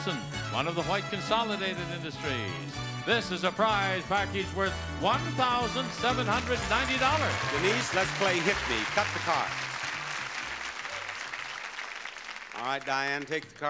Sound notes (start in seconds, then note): 10.0 audience applauding